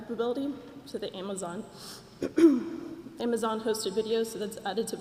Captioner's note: cough